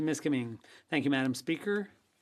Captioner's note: speaking French